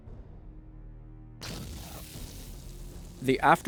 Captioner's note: explosions